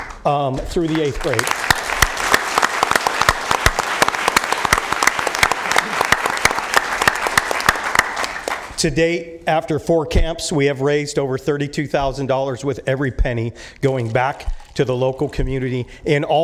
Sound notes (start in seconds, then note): 5.0 applause